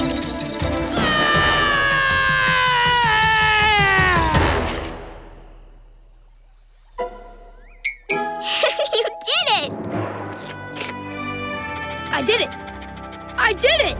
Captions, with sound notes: [screaming] [laughing] You did it! I did it. I did it.